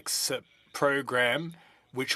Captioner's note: speaking French